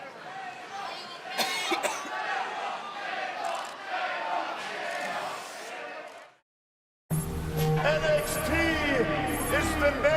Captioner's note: crowd cheering